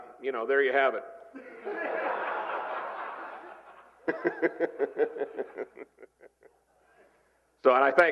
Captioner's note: laughter